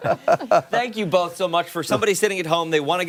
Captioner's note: laughter